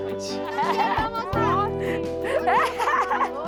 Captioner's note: laughter